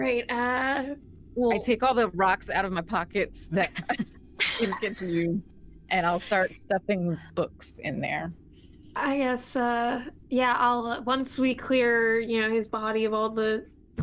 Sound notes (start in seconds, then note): 4.4 laughing